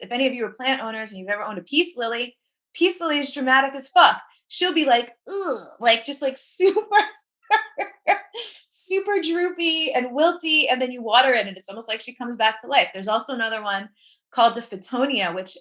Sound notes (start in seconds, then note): 7.5 laughs